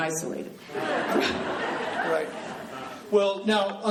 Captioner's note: laughing